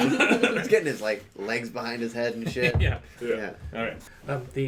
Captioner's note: laughing; laughing